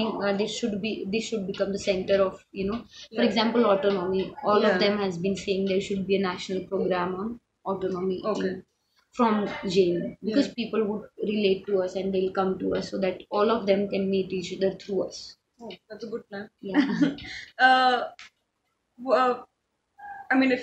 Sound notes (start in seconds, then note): 18.9 laughs